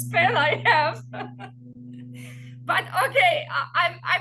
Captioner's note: laughs